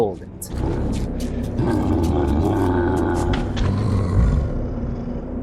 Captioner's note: librarian noises